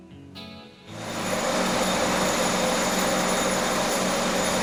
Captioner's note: mechanical whirring